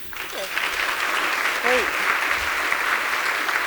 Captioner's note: audience applause